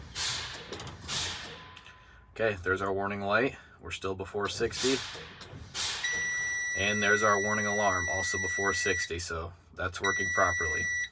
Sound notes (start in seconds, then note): 6.0 warning alarm